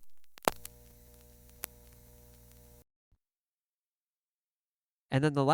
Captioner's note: faint buzzing comes back; ksssh, thhip, pop